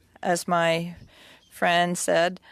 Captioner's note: speaking French